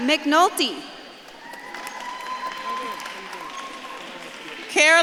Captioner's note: audience claps and cheers